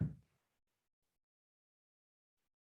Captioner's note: silence